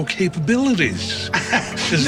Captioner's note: laughs